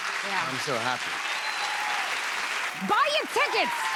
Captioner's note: cheers and applause